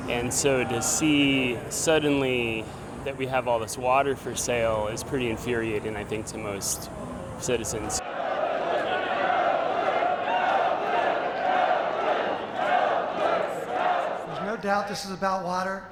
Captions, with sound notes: And so to see suddenly that we have all this water for sale is pretty infuriating, I think, to most citizens. (crowd chanting) There's no doubt this is about water.